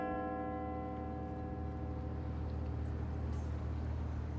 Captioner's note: Big Ben's bells chiming